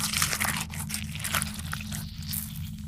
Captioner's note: cracking